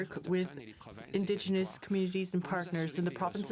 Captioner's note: speaking French